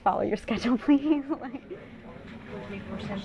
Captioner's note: laughs